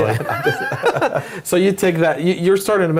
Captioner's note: laugh